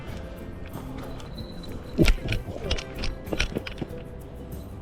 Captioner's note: the bell rings